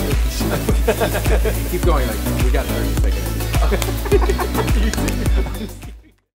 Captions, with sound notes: - (laughs) Keep going like, we got 30 seconds. - Okay. - (laughs)